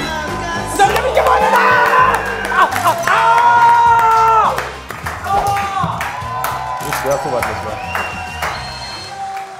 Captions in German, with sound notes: Damit hab ich gewonnen! (Freudiges Brüllen) (Fetzige Musik) Sauber! (Jubel, Applaus)